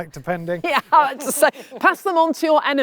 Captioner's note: laughing